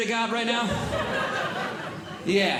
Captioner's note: audience Laughing